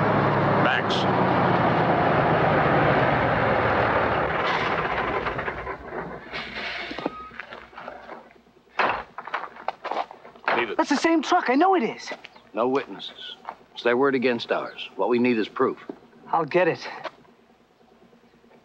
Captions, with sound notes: - Max! (engine stops) (door closes) Leave it! - That's the same truck, I know it is. - No witnesses, it's their word against ours. What we need is proof. - I'll get it.